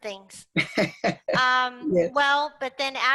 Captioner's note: laugh